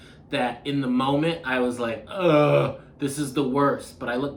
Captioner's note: grunting